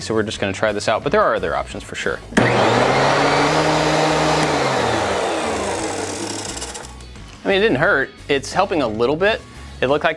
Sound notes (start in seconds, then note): 2.3 engine revving